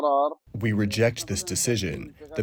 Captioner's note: through translator